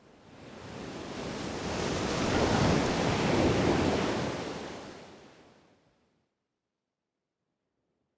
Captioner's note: waves crashing